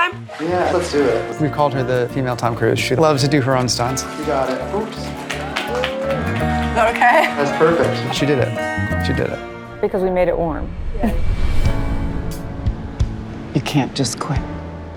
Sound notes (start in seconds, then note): 5.1 crew members clapping; 10.9 chuckles